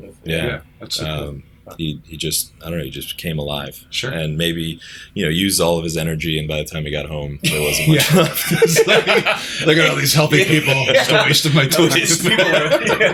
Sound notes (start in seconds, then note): 10.2 laughter